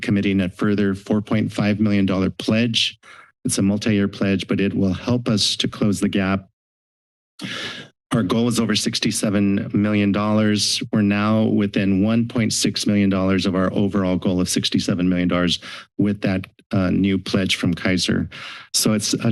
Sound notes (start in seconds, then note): 6.5 silence; 7.4 inhales